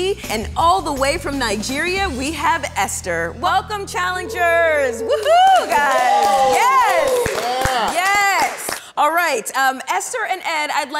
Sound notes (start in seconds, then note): 4.1 everyone cheers